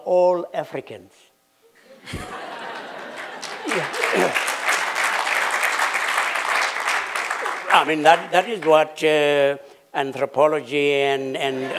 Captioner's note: laughter